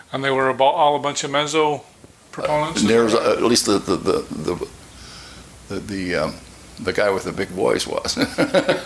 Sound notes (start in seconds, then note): 8.0 chuckling